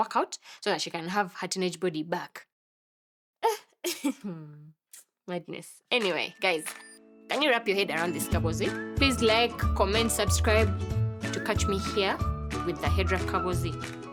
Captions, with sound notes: work out so that she can have her teenage body back. [laughing] Madness. Anyway, guys, can you wrap your head around this kaboozi? Please like, comment, subscribe to catch me here with the HeadWrap Kaboozi.